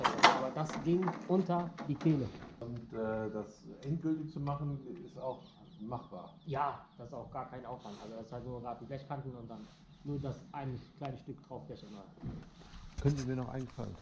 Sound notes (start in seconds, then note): none